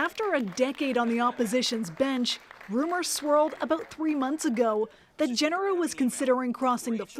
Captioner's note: applause